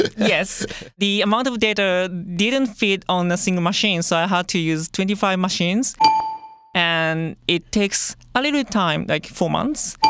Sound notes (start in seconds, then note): 5.9 bell chimes